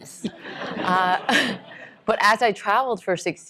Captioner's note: laughter